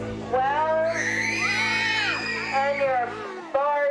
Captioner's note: crowd cheering